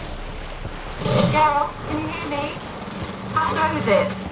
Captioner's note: through xenovox, distorted